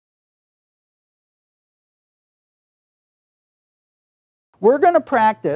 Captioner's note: silence